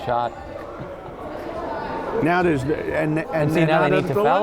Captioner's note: crowd chattering